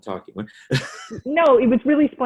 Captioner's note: laughing